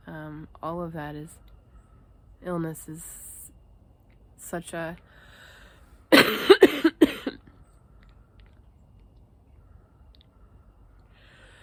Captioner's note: cough; cough